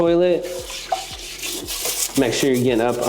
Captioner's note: brush rasping